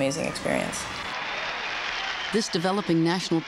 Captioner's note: cheers, Applause